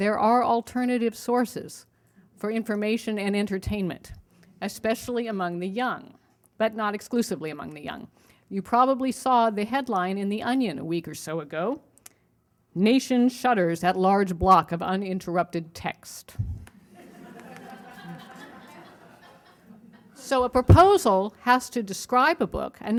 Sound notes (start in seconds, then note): 16.8 laughter